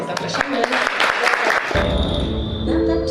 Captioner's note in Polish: oklaski